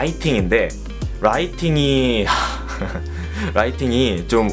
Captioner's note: sigh